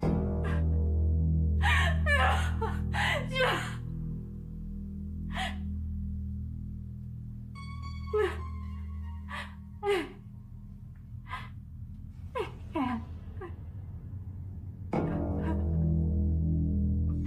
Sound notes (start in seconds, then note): 0.2 eerie music; 1.6 sobs; 5.5 woman sobs